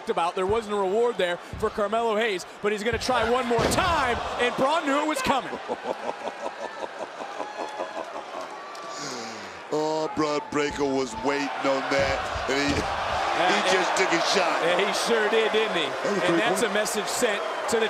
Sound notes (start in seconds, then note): 8.8 laughs; 14.1 crowd boos